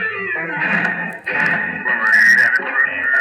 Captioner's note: thud